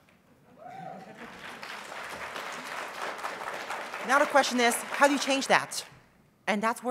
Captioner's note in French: applause